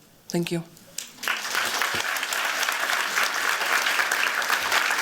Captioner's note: applause